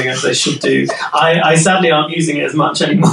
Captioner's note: laughing